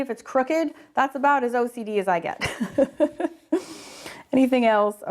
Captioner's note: laughing